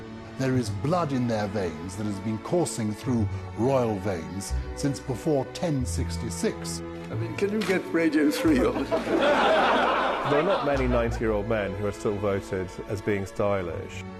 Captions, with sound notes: - There is blood in their veins that has been coursing through royal veins since before 1066. - Can you get radio through here? (laughing) - [Voiceover] There aren't many 90-year-old men who are voted as still being stylish.